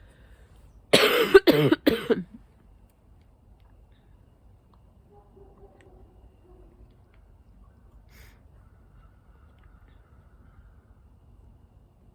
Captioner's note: cough